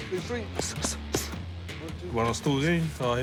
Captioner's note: grunts